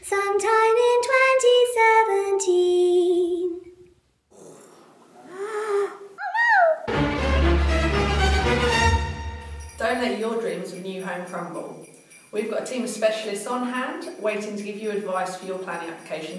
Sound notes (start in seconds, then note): 5.3 gasp; 6.8 ominous music